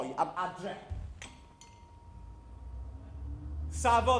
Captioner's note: bus bell chimes